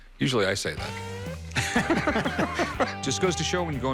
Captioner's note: laughs